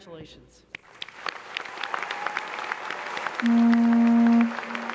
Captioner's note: applause